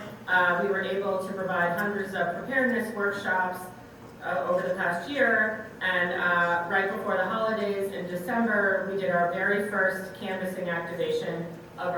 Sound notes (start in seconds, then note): none